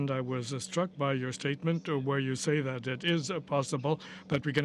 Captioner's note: speaking french